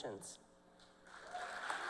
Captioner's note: cheers and applause